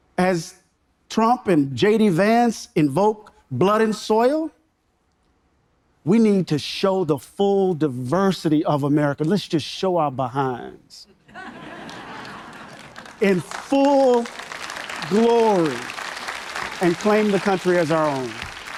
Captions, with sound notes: as Trump and JD Vance invoke blood and soil, we need to show the full diversity of America. Let's just show our behinds (audience members laughing) (audience members applauding) in full glory and claim the country as our own.